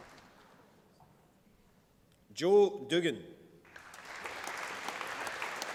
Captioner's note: applause